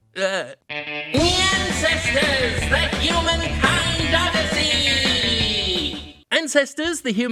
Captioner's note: as Skeletor